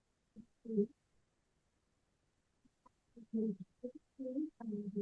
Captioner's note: speaking faintly